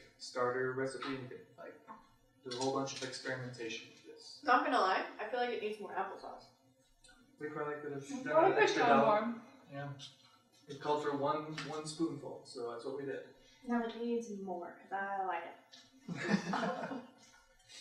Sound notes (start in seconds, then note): 15.8 in a silly voice; 16.1 laughter